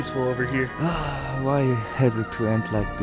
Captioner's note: sighs